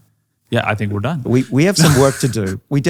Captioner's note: laughs